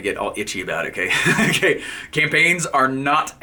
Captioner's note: laughing